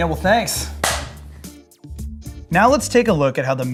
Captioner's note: high-five clap